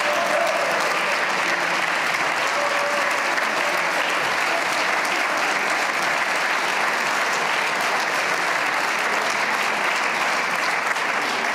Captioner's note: cheers and applause